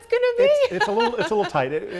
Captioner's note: laughter